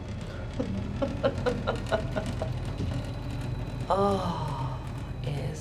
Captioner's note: woman laughing